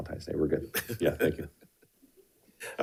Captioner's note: board Members laughing